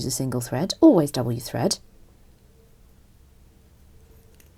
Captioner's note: snipping